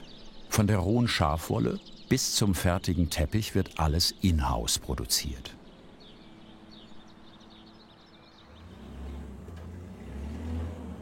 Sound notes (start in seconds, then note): 8.0 motors